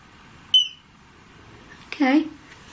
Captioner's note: beep